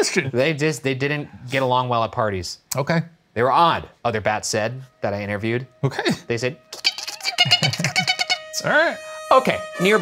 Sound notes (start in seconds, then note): 6.6 imitating bat squeaking